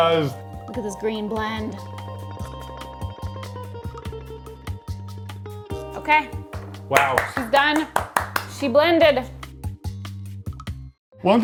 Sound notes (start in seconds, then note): 3.3 relaxing music continues; 6.3 hands clapping; 9.7 relaxing music continues